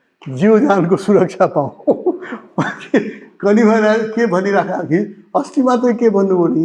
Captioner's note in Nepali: हास्य